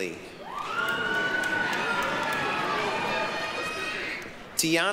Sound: applause, cheering

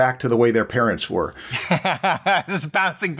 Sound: laughter

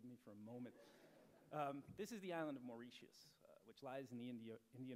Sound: laughter

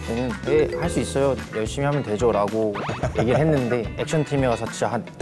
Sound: laughing

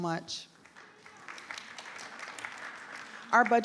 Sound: crowd clapping

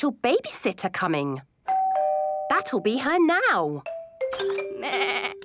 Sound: doorbell rings

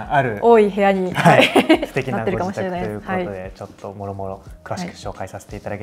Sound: laughter

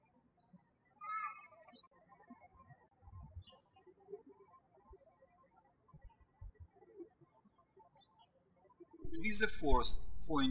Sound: birds chirping

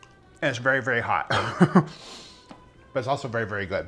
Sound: moves into slow tempo music; laughs

